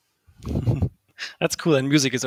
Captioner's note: laughs